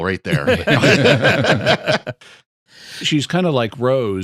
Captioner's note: laughter